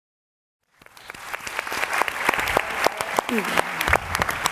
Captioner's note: audience clapping